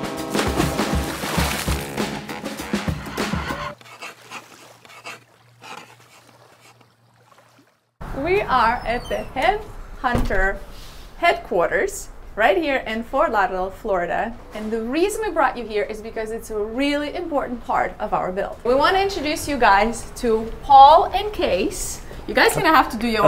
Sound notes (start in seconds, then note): 0.1 ship horn blaring; 0.3 water splashing; 3.7 pen scraping; 3.8 music ending